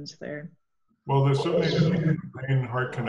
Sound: audio blurs

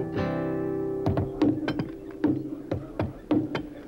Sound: wood banging

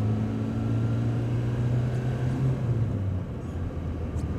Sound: car engine roaring

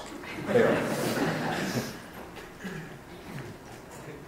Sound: laughter

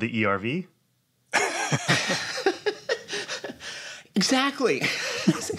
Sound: laughter

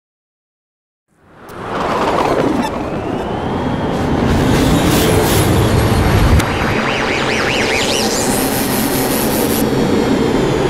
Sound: sound of science fiction

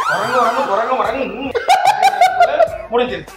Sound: laughs

